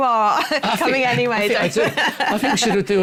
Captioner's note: laughter